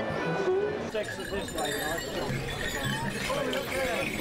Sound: bells jingle

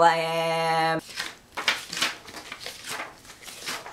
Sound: turning pages loudly

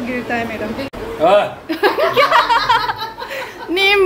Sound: everyone laughs

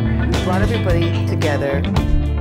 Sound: theme music; voice over music

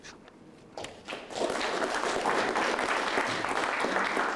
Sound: applause

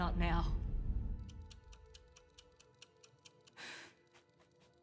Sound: timer ticking

